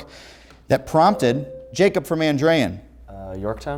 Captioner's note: ringing